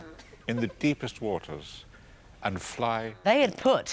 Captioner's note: breaking wind & people giggling